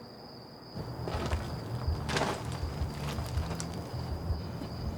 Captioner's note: footsteps crunching